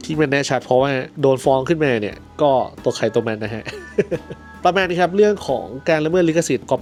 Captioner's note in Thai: เสียงหัวเราะ